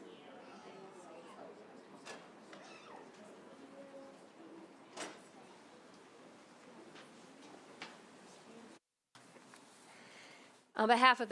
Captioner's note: silence